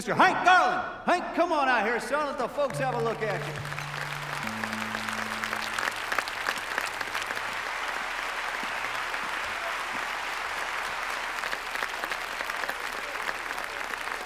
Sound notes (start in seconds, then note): 3.6 audience applauding; 4.6 tuning strings